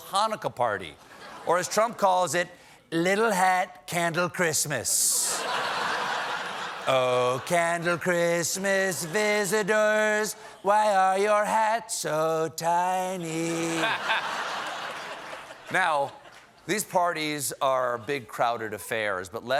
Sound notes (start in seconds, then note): 5.1 laughter; 16.5 laughter